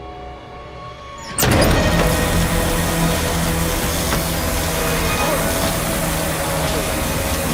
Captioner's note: tense music; electricity crackling